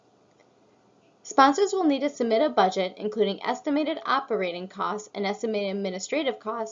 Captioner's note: click